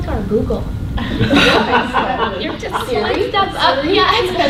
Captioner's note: laughter